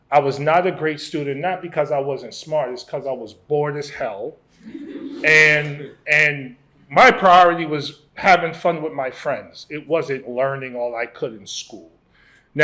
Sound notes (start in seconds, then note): 4.6 laughter